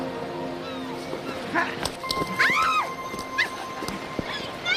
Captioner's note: Joanna screams